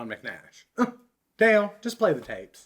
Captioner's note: scoff